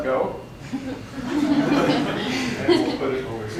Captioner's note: audience laughs